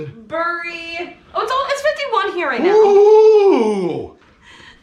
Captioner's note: Modii exclaiming